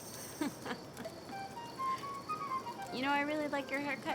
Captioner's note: Daisy laughs